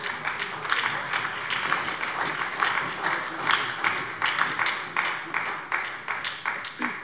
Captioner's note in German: Beifall bei der SPD